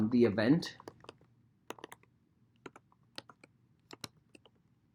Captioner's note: keyboard clacking